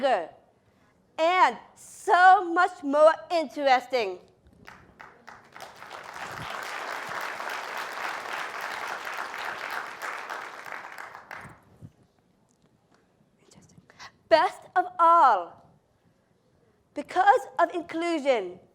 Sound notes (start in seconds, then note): 4.6 applause